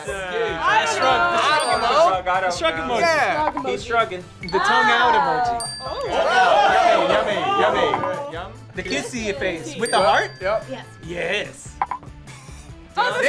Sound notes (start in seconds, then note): 5.4 bell dings; 6.6 group cheering